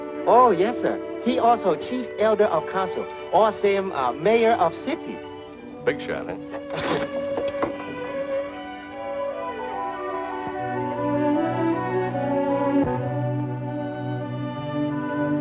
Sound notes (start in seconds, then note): 6.6 chuckles; 8.7 gentle instrumental music